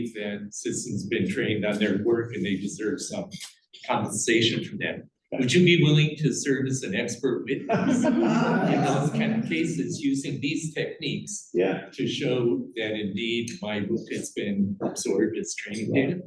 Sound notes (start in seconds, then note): 7.5 laughter